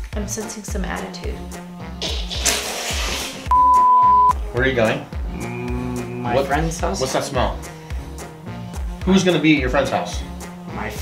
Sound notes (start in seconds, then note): 1.5 laughs; 3.5 beep